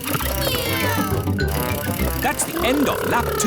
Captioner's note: kids imitating vehicle sounds